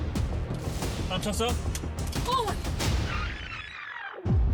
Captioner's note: foreign